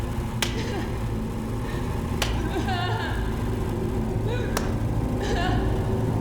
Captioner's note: Hanna crying continues; stick snapping